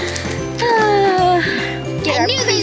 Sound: sighs; giggles

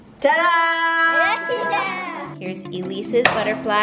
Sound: kids laughing

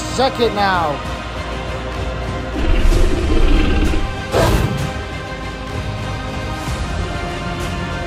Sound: growling

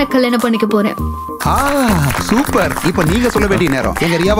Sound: applause

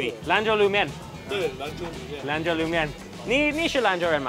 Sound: speaks in chinese

